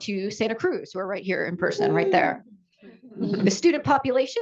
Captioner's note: "Whoo" from the audience